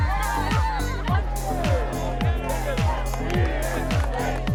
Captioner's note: all cheer